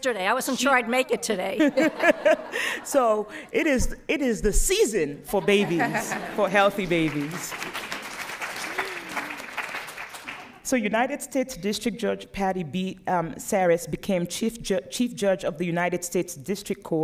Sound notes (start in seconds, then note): 6.7 applause